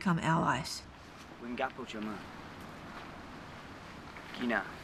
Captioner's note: speaking local language